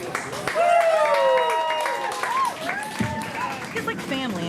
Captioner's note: cheers, applause